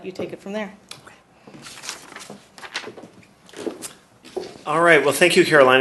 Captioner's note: paper shuffling